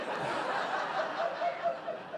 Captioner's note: audience laughing